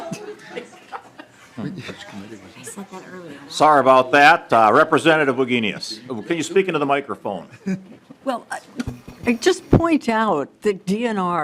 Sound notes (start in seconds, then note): 1.8 laughing